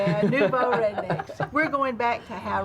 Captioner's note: laughing